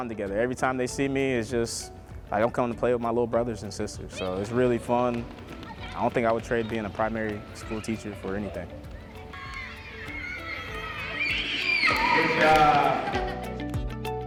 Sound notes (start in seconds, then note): 9.0 children playing; 12.9 child laughing